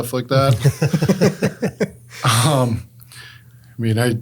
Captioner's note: group laughs